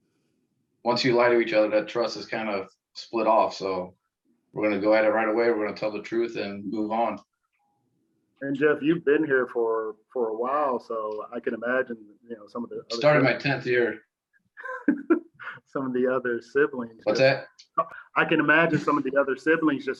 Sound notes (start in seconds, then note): 14.6 laughs